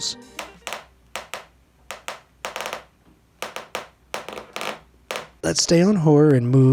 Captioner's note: balloon clicks